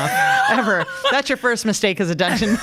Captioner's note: laughs